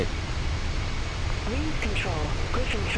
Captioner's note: radio chatter